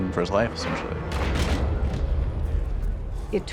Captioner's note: loud clattering